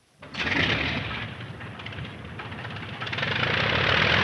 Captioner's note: engine sputters